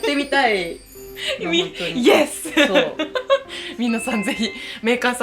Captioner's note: laughs